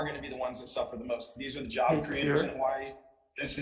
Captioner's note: man speaks faintly